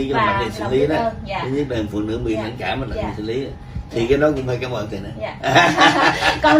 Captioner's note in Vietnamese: cười